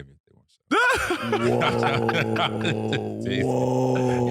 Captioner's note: laughing